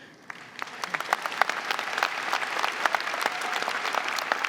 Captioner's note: audience clapping